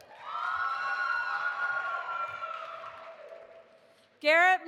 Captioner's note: audience applauding and cheering